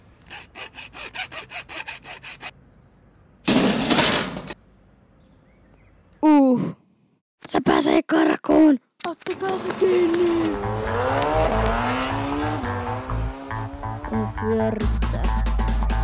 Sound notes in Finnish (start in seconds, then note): 9.5 autojen ääntä